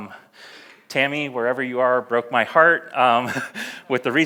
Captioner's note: laughs